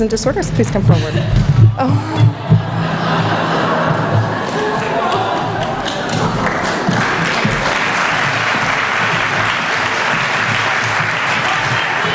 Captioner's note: applause